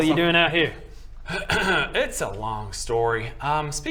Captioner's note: cough